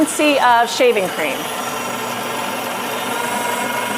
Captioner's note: whisking